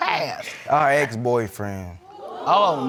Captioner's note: crowd gasps